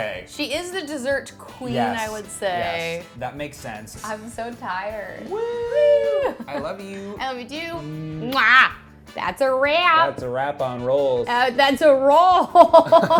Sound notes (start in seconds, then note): 5.4 cheering; 12.6 laughing